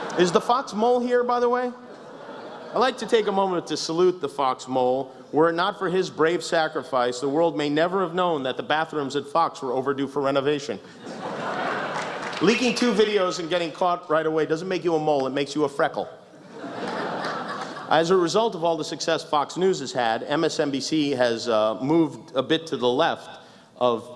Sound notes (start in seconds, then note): 0.0 laughs; 10.9 laughter; 16.5 laughs